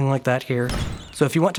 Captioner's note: poof!